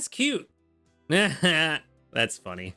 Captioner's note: laughs